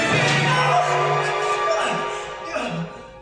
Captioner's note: VALENTIN screams